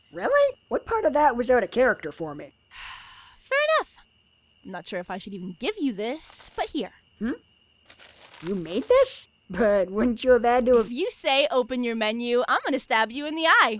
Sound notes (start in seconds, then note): 3.1 sighs